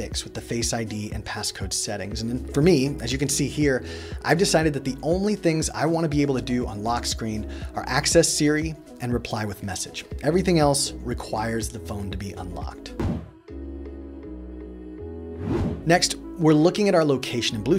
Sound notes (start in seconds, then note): 13.0 whooshing; 14.0 gentle music